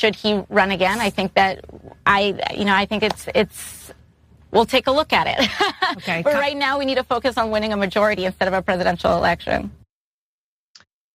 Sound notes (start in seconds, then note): 5.4 laugh